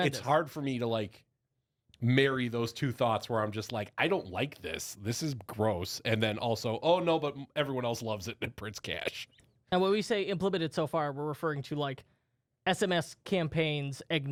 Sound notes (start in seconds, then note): 9.1 laughs